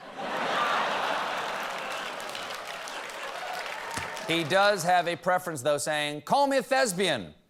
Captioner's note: laughter